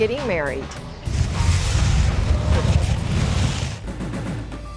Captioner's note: whooshing